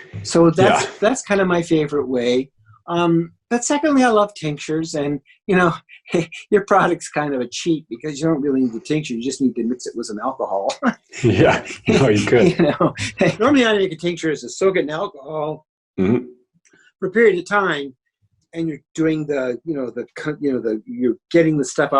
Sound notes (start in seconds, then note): 10.9 laughs